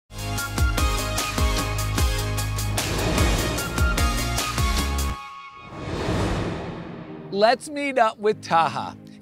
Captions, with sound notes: (upbeat music) (air whooshing) Let's meet up with Taha.